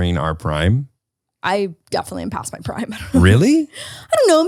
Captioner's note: laughs